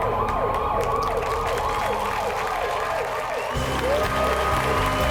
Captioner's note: applause